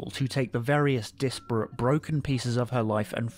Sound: none

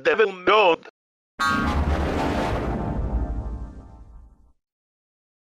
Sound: 8-Eyed Devil Windows XP Shutdown Sound

